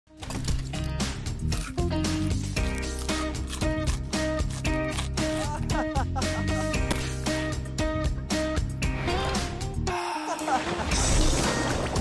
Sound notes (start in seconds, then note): 0.4 upbeat music; 1.3 food crunching; 5.2 boy laughing